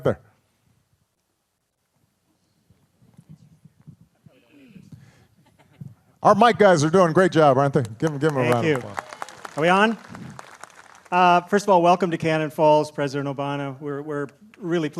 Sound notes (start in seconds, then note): 7.7 applause